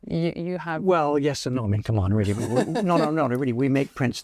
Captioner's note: laughs